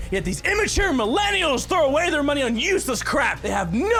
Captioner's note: none